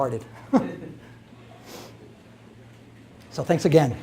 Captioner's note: chuckles